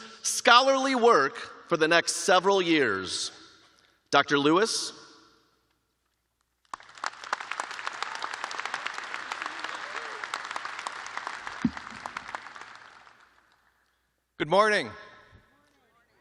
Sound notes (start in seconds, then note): 0.6 applause